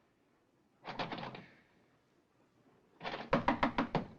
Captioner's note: doorknob Rattling; knocking